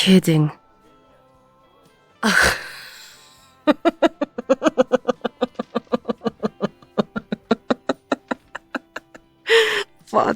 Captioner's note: hysterical laughter